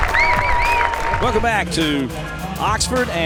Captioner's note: voiceover